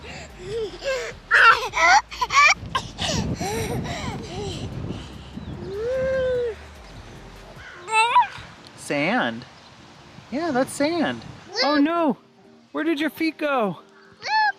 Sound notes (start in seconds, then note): 0.2 laughing; 7.8 coos